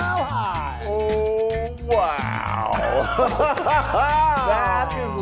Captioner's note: laughs